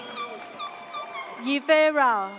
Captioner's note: air horn blares